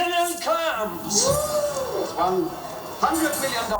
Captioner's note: whooping